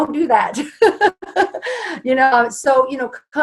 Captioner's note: laughs